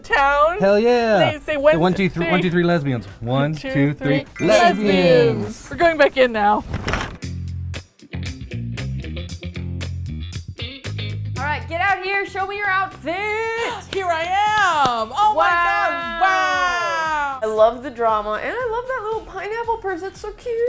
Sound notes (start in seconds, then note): 7.2 funky bass music; 13.6 gasps